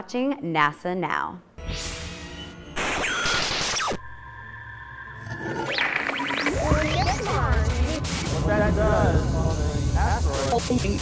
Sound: sound Effects

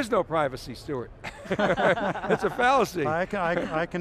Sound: group laughing

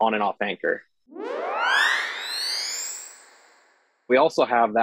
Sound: high pitched whirl

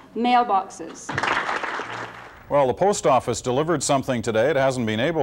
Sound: applause

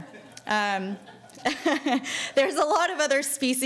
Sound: laughing

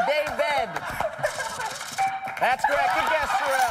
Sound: chime

